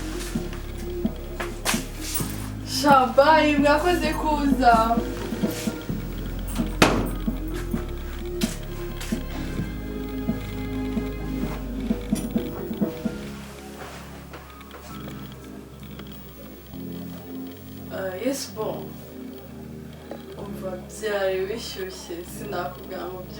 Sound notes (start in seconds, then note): 0.1 door open; 4.4 door closed